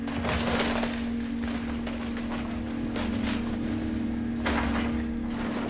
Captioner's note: fiberglass crushing